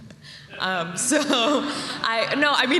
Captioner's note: laughter